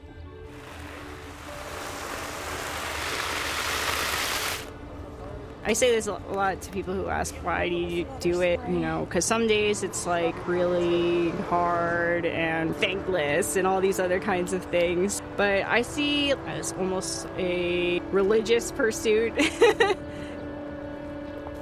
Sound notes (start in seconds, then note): 2.6 water sprays